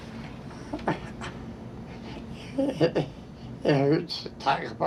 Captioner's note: crying